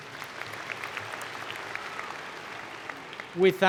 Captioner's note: applause